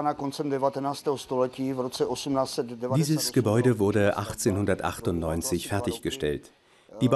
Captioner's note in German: tschechisch